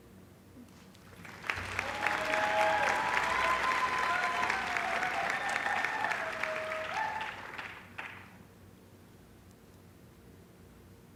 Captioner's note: applause